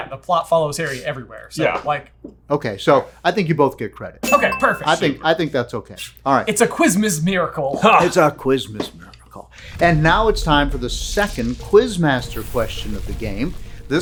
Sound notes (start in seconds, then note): 4.2 ding; 4.2 celebration music